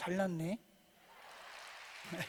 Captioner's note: laughter